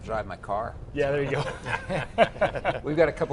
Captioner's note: laughing